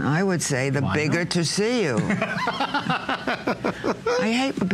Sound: laughter

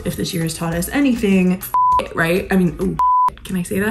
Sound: beep

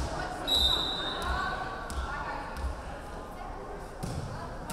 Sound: referee whistling

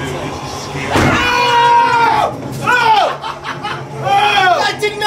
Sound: guys scream

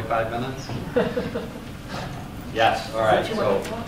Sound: laughter

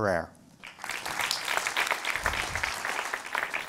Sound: applause

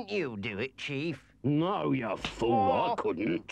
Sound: Henchman Weasel groans

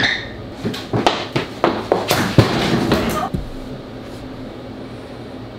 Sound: footsteps pattering

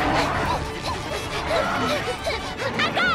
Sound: gasping

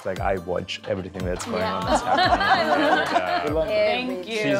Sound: laugh

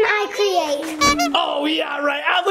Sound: horn beeps

